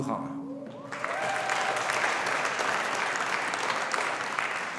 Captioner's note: audience applauding